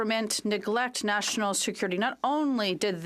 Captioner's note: speaking French